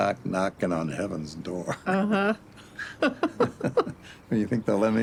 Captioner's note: laughs